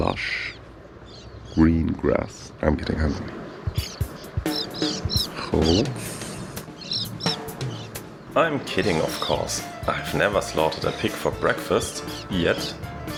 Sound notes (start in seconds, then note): 6.2 in Armenian